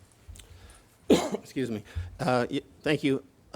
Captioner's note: coughs